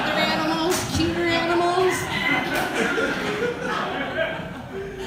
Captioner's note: audience laughter